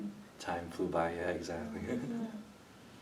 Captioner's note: laughs